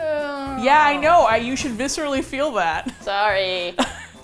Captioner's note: laughs